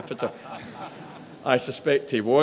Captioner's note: audience laughing